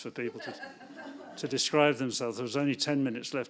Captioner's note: audience laughing